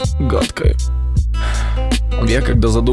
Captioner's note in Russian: Вздох